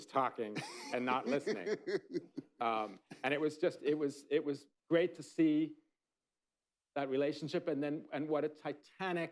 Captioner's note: laughter